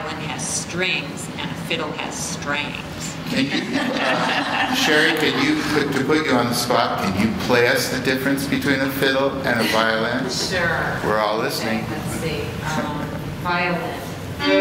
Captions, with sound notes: More twangy. More -- they say that the difference between a violin and a fiddle is that the violin has strings and a fiddle has strangs. [ Laughter ] >> Chari, could you -- to put you on the spot, could you play us the difference between a fiddle and a violin? >> Sure. >> We're all listening. >> Okay, let's see. Violin.